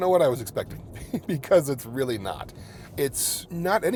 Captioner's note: chuckling